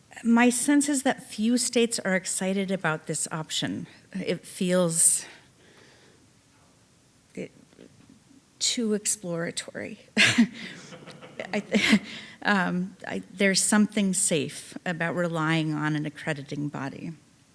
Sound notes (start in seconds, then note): 10.2 chuckling; 10.5 audience laughing